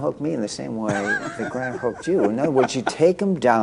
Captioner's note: laughter